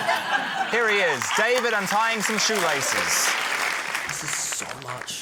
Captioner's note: laughter; applause